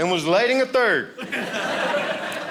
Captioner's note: audience laughing